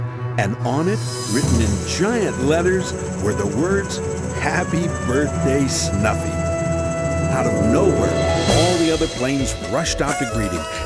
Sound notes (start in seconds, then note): none